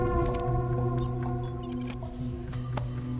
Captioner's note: beeping